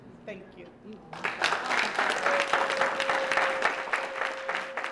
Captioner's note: applause